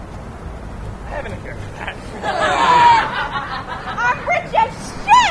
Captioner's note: laughter